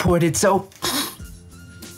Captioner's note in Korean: 콧방귀